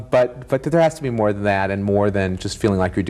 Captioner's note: none